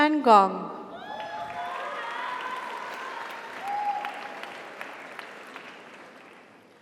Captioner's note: audience cheers; audience applauds